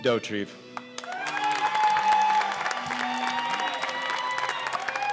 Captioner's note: cheers and applause